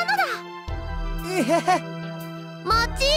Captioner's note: gag in utter disbelief